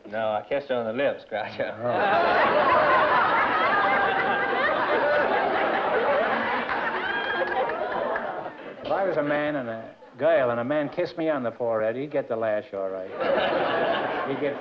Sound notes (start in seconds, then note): 1.7 laughter